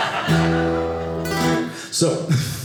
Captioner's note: audience laughing